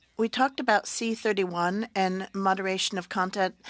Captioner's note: speaking French